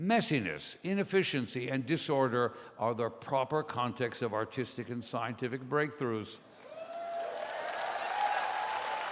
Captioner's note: applause